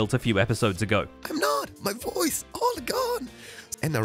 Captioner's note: wheezing